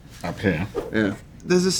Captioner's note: slide swipe